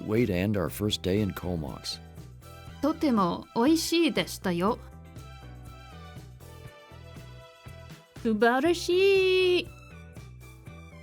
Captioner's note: speaking Japanese